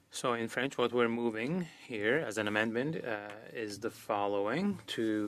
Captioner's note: speaking French